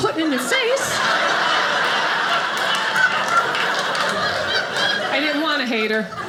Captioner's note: audience laughing